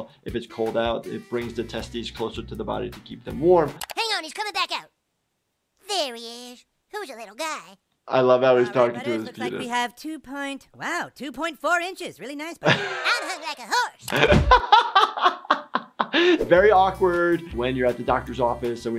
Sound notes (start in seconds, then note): 14.0 laughs